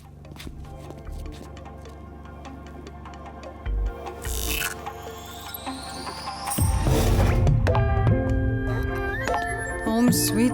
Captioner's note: footsteps